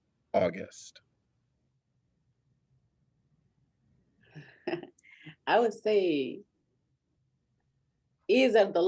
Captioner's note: laughter